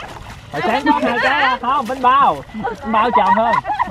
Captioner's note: laugh